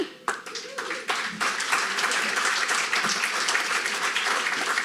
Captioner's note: audience applauding